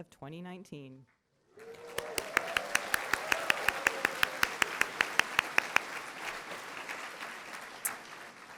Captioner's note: applause